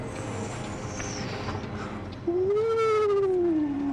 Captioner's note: imitating wind whistling